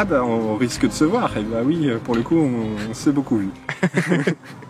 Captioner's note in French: rires